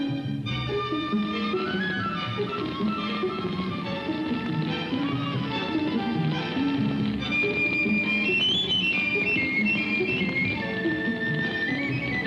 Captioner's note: suspenseful music; flames crackle